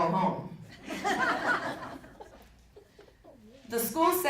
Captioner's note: audience laughing